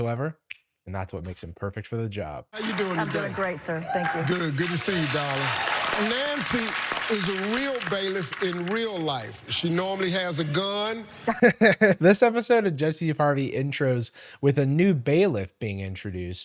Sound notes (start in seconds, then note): 0.3 fingers snapping; 6.1 cheering and clapping; 11.2 laughs